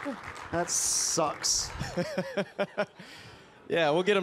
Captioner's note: participants applauding; laughs